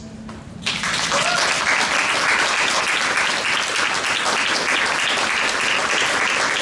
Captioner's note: applause